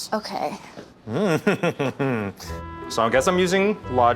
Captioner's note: chuckles